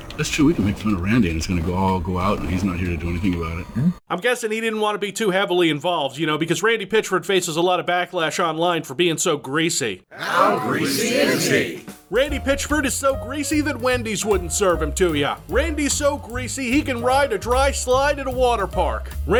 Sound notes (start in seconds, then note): 10.1 crowd